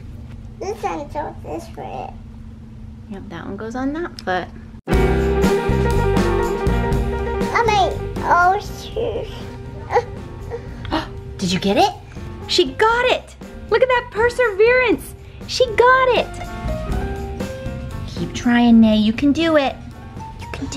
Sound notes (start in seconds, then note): 5.3 playful jazz music; 10.4 gasps